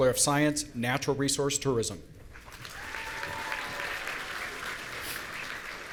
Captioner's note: audience applauding